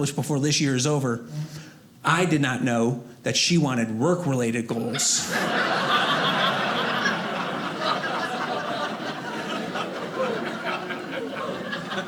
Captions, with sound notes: "before this years over." I did not know that she wanted work-related goals. (audience laughing)